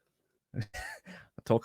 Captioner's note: laughs